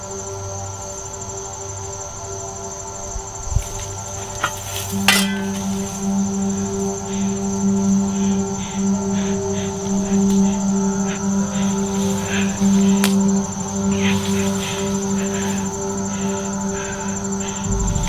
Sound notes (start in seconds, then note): 5.2 shovel scrapes on brick; 7.6 kayla breathing heavy